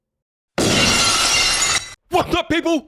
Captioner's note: glass breaking